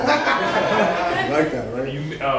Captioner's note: laughter